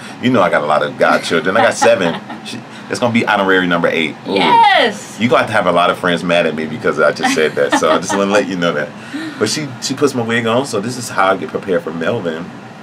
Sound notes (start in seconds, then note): 7.2 laughs